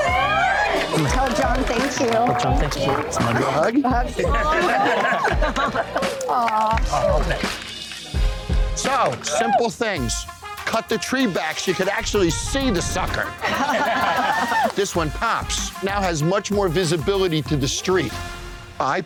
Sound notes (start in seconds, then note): 4.5 mother laughs and cheers; 13.3 crowd laughs